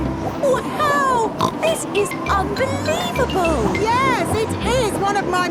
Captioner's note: snorts